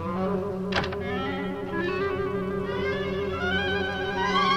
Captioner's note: suspenseful orchestral music; door closes